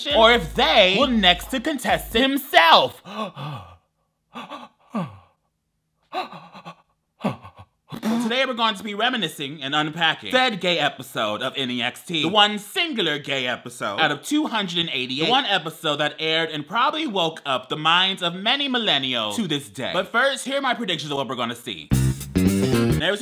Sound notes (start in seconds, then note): 3.4 gasping